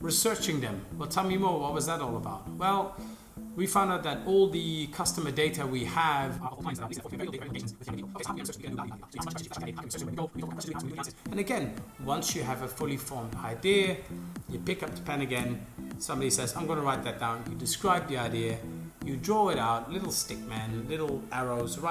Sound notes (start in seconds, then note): 6.4 fast forwarding sound